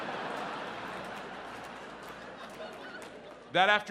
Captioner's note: audience laughs